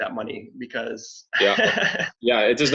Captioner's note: laughs